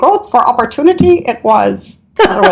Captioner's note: laughing